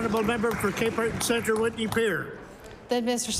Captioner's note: applause